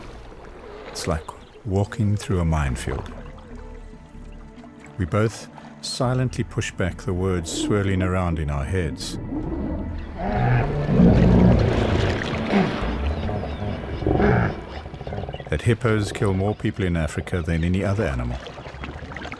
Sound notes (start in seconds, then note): 9.8 hippo calling; 9.8 animals calling; 15.1 animals calling